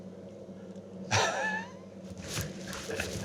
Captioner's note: laughs